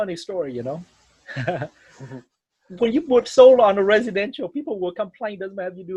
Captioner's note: laughs